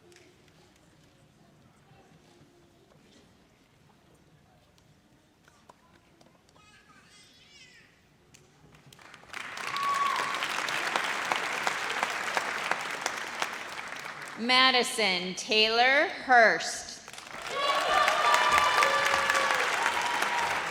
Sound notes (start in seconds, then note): 8.9 audience applauds; 17.2 audience cheers